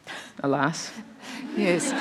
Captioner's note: laughter